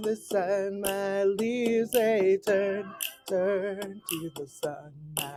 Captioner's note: raven caws